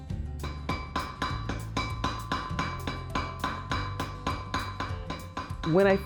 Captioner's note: hammer clanking